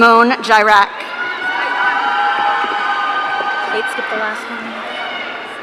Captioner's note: audience cheering